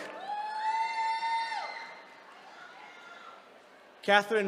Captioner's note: attendees cheering